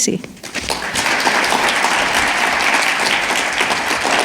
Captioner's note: all clapping